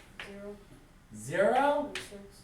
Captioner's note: voiceover